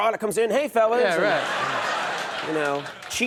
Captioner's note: audience laughs